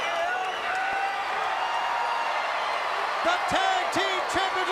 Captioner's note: crowd chatter